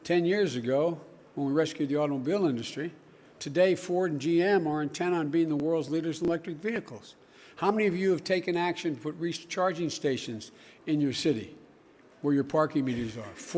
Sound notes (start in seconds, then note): none